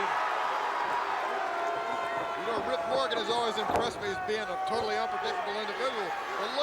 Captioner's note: crowd cheering